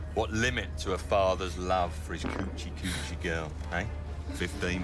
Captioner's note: men farting